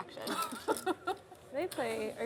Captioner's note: laughs